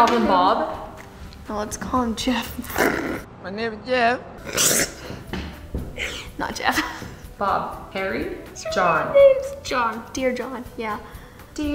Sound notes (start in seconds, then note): 4.8 laughs